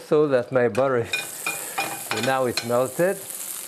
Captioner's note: butter sizzling